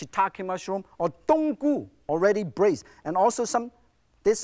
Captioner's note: speaks in foreign language